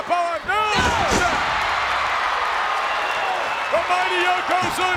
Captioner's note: audience cheers